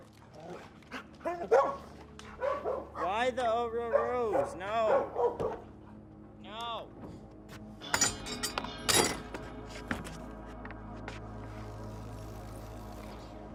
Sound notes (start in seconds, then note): 0.2 dog barking; 7.8 metal tools clanging